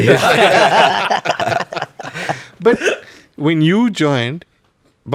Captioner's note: laughs